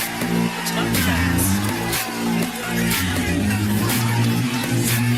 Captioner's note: applause